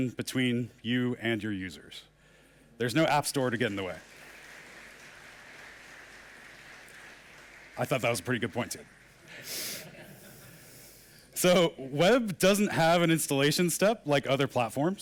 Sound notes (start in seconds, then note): 8.5 applause in the background